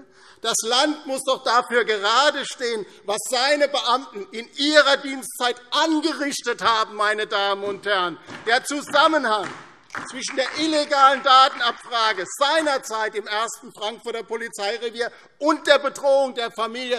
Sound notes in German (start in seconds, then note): 8.2 Beifall DIE LINKE und vereinzelt SPD